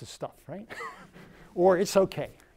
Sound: laughs

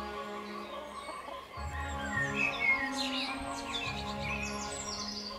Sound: chickens cluck in distance

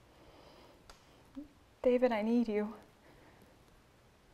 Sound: none

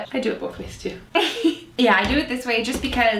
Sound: laughs

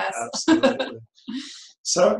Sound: laughs

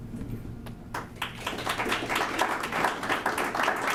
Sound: applause

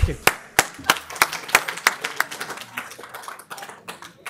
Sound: applause

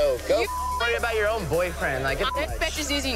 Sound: beep

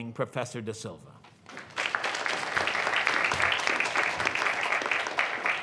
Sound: audience clapping

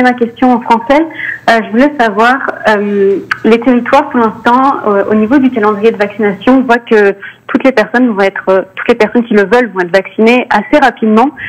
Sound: speaking French

